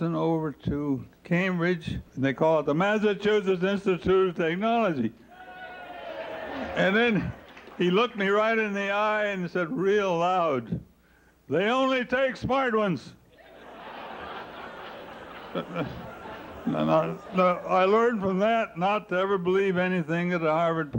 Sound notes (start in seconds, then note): 5.3 cheering; 13.3 laughter